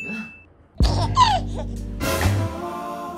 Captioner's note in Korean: 헤헿